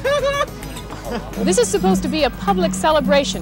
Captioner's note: chuckling